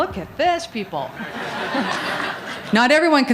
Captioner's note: laughter